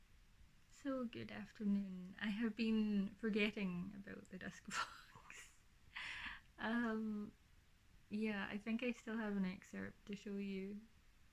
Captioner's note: laughs